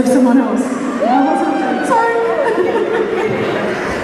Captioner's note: laughs